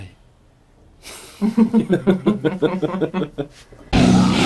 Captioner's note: laughing; metal music